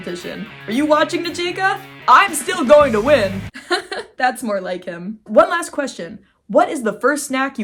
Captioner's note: hardcore music; laughing